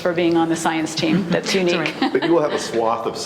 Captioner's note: laughs lightly